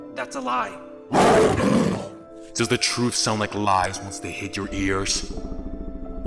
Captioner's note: roar